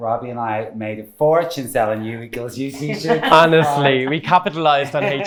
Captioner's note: laughs